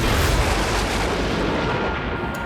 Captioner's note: thunder crashing